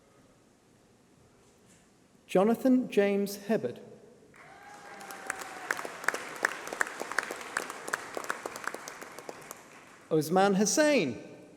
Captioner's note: applause